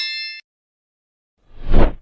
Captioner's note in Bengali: ঘণ্টা